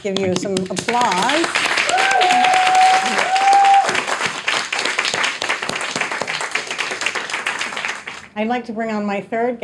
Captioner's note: audience applauding, cheering